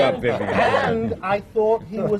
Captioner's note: laughter